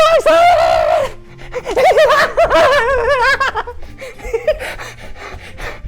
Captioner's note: panting; funny Laughter